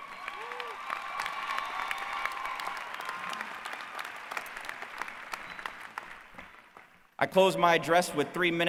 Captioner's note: applause